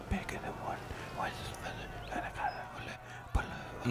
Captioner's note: God whispering